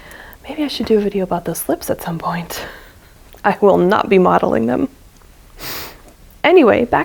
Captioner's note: laughs